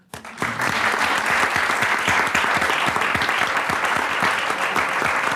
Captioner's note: audience applauds